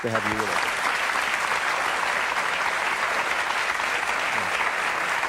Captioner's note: audience applauding